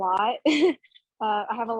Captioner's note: laughing